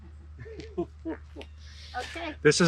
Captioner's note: laughing